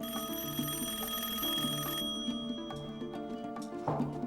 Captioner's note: rings